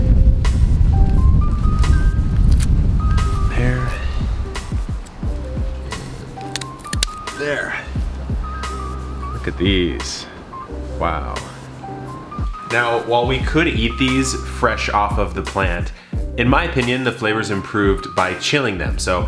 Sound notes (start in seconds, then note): 0.2 soft music; 4.5 shears clipping